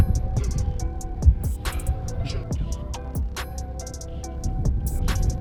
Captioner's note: wind blowing